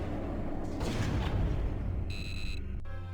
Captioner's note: laser blasts; beeps